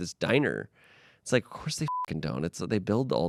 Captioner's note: beep